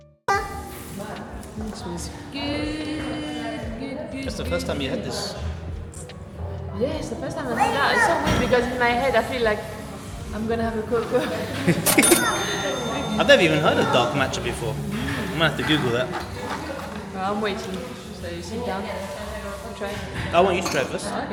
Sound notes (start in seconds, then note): 11.1 laughing